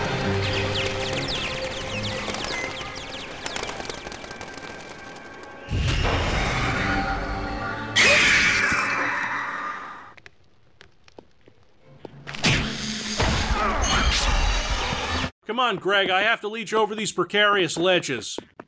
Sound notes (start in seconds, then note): 0.4 bat chirping; 7.9 succubus screeches